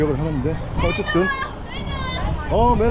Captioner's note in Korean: 갑자기 아이들 소리